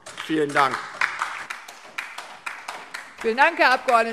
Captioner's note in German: Beifall DIE LINKE und SPD